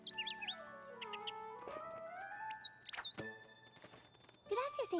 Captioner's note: chirping